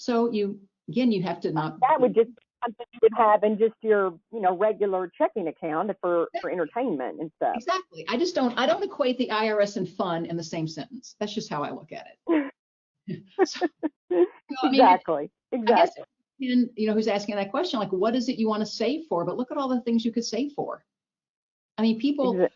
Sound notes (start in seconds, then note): 14.4 laughs